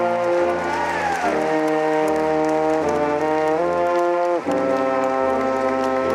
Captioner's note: audience cheering and applauding